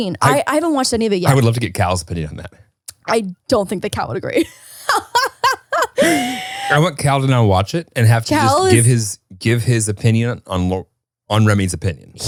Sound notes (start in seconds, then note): 4.4 laughs